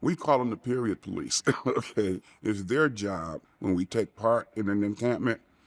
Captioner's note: chuckling